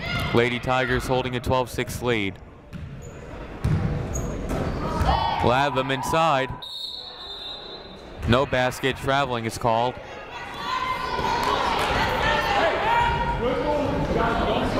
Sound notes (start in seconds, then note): 6.6 whistle blows; 11.7 crowd murmuring